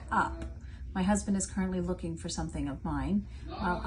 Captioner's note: distantly calling out